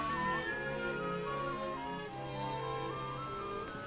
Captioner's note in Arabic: none